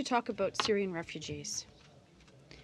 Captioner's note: speaking in french